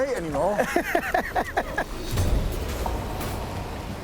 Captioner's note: laughs